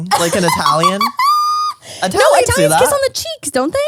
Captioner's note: laughs